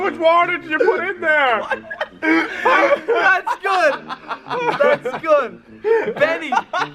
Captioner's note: struggling to talk through laughter